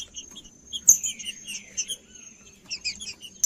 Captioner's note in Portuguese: trinca ferro cantando